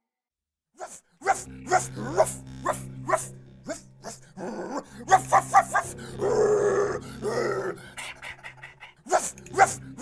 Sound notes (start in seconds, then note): 1.0 homeless man continues to bark like a dog